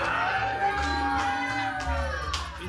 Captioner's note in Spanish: Exclamaciones; Aplausos